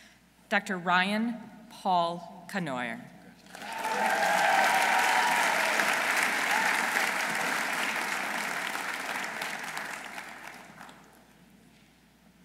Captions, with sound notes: Dr. Ryan Paul Cournoyer. -(audience cheering) -(audience applauding)